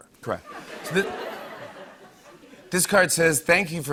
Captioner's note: laughter